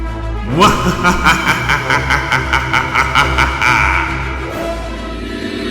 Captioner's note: evil laughter